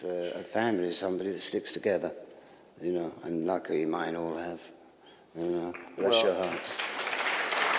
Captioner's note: applause